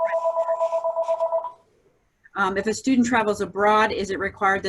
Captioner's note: phone rings